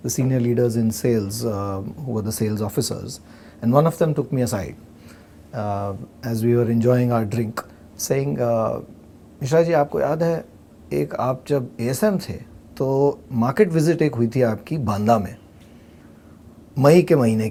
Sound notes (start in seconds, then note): 8.6 in hindi